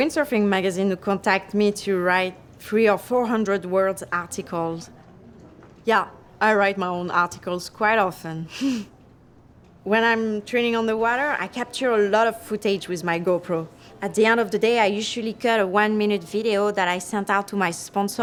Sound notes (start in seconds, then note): 8.2 chuckling